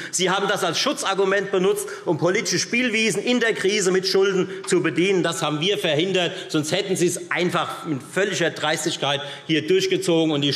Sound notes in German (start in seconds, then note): none